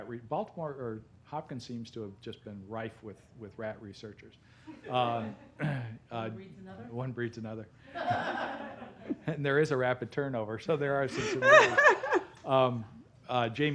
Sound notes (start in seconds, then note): 4.7 laughter; 7.9 laughter; 11.1 laughter